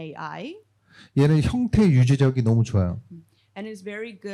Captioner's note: speaking korean